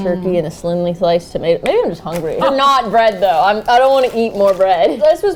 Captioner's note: laughing